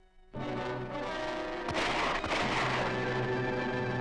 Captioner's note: gun shots ring out!